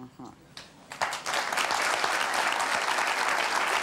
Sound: applause

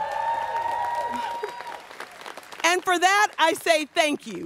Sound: students cheering

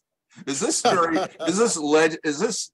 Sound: laughs

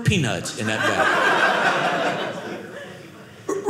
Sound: audience laughing

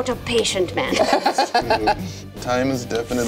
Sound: laughing

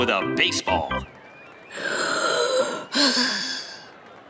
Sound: sighing

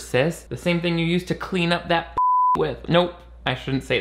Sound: beep

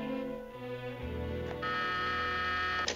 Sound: buzz

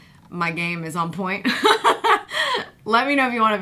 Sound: laughs

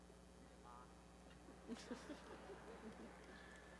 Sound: laughter

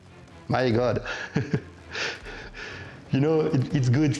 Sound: chuckles

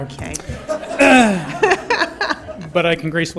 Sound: laughter

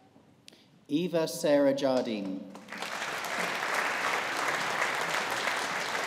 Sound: audience applauding

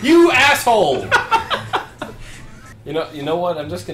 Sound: laughs

